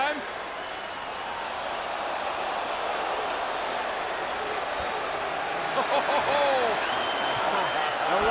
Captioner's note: applause